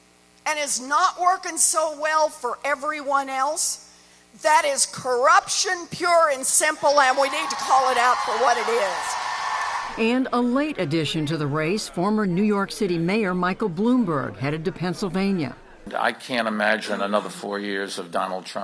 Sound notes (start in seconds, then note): 9.1 cheering and applause